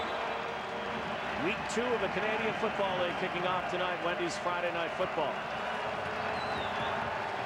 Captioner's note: applause